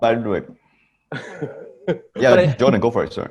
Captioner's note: Jordan laughs